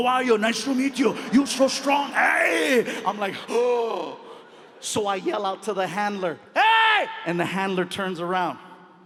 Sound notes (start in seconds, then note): 4.0 gasps